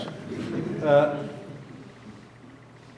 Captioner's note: audience laughing